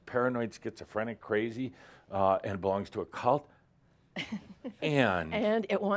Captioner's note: she chuckles